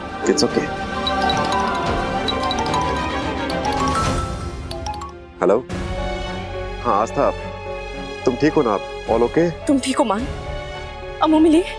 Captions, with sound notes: It's okay. [mobile ringing] Hello? Yes, Aastha. Are you alright? All okay? Are you okay, Maan? Did you meet Amu?